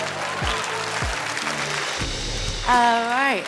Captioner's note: audience cheering; audience laughing; upbeat ambient music